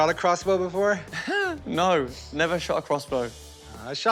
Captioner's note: chuckles